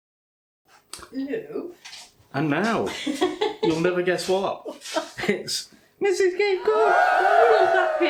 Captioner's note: cheering